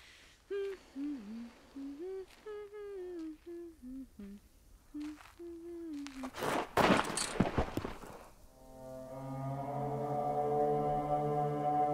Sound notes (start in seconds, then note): 4.9 footsteps crunching; 6.2 Brigit crashing; 8.6 dark tense music